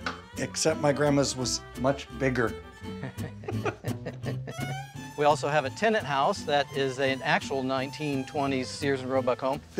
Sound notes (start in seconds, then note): 2.9 chuckling